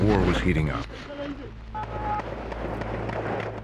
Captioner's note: gunshots